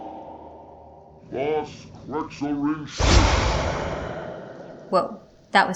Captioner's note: Grim's voice makes an announcement followed by a loud boom